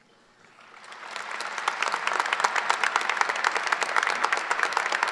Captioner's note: audience applause